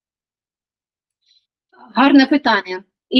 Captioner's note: Ukrainian